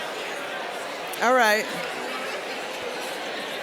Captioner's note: general chatter